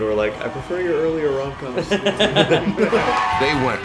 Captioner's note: laughter